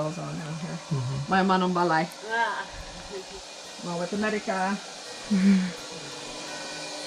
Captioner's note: speaking in Palawano